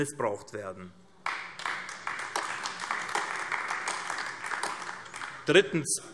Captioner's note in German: Beifall AfD